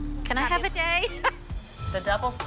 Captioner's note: laughs